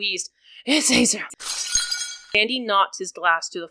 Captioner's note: shattering glass and someone being slammed into a wooden beam